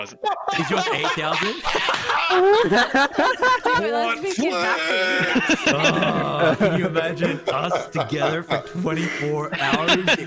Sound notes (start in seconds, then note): 0.3 belly laugh; 1.9 chaotic laughter; 3.8 all excited talking; 9.1 laughs